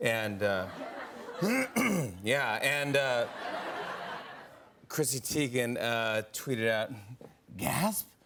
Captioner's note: laughter; clears throat